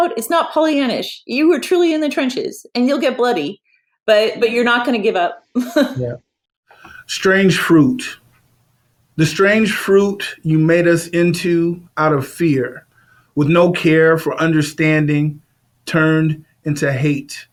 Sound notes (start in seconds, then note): 5.6 laughs